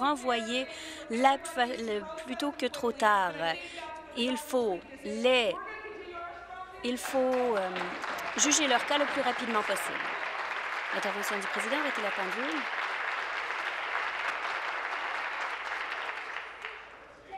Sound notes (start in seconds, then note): 9.8 voice trailing; 11.6 applause